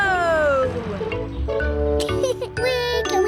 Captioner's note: laughs